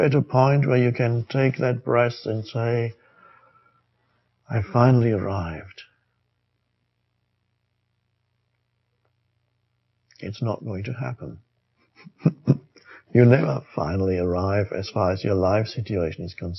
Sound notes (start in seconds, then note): 11.9 laughs